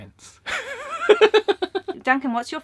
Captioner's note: giggling